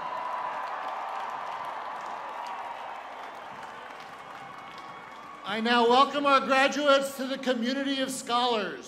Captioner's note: cheers and applause